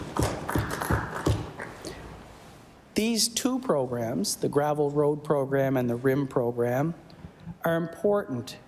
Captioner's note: some Applause